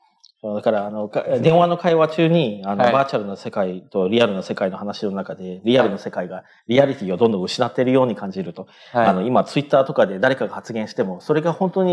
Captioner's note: speaking japanese